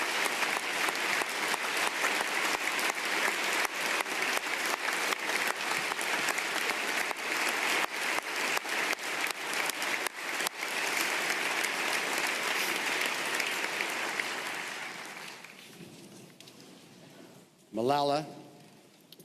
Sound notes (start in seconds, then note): 2.7 applause